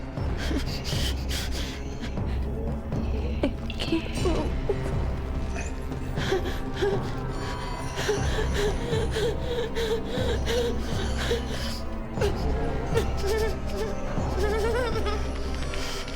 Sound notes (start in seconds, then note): 1.0 Claire whimpering; 7.8 Claire gasping; 12.1 Claire whimpering